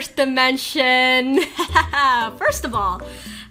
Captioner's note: laughs